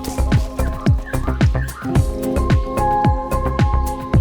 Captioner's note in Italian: Rumori della giungla